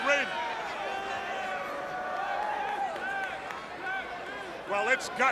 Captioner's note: crowd chatter